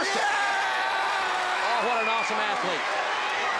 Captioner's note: Luger screaming